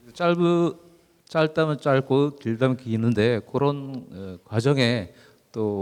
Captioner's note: speaking in foreign language